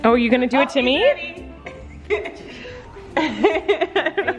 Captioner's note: laughing